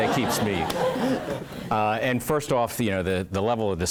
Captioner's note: laugh